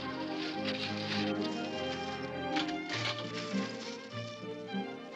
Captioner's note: whimsical music; jewelery clinking; whimsical music